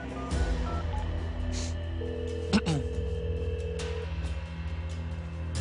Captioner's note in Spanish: Sonido al marcar